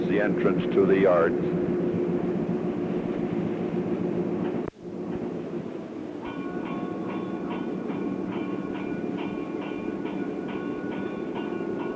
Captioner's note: sound of train moving and whistle